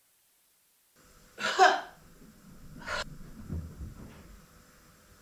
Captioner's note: 'Ha' sounds